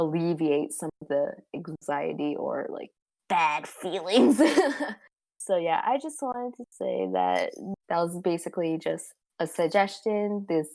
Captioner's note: laughs